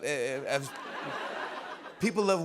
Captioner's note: laughter